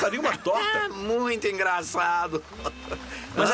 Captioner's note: laughs